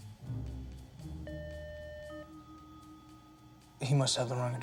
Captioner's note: doorbell rings